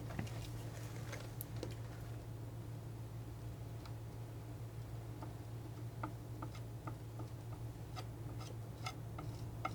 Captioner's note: tapping